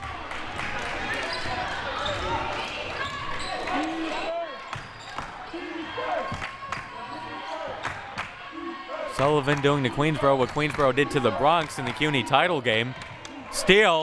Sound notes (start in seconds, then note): 0.0 audience applauding; 6.3 clapping